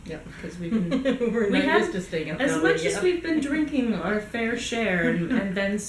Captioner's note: giggles